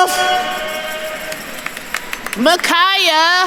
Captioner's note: attendees applauding